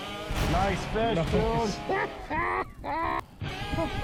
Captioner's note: laughs